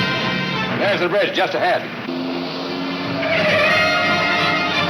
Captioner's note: tires squealing